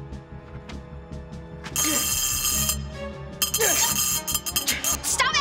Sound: zapping

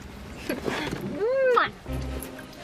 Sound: kisses

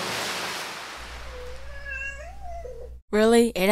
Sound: cat meowing

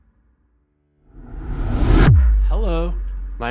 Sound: graphic whooshing

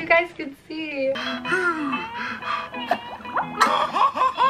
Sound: panting; laughs

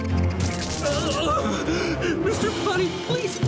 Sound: groaning

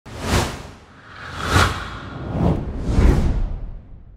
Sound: screen wooshing

